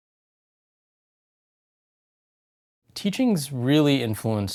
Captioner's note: pause